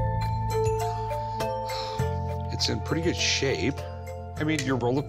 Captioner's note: sighs